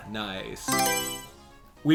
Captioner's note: Mario Selection Sound